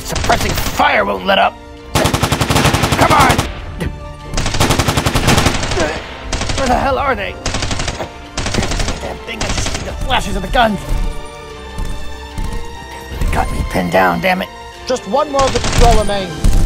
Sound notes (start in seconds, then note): 0.0 rapid Gun Shot Sounds; 1.9 rapid Gun Fire Sounds; 11.0 rapid Gun Fire Sounds